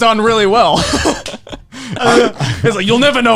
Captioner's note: laughing loudly